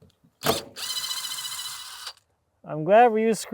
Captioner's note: drill running